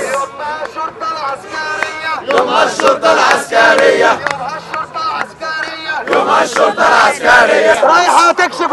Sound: chants

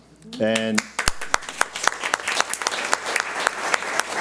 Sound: audience applauds

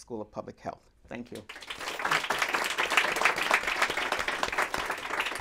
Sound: applause

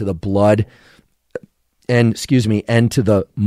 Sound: burps

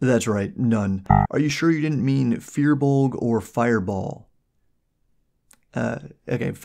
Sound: error beep

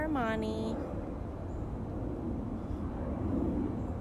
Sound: airplane noise

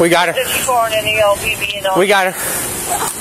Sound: radio chatters

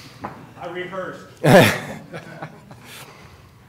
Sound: laughter

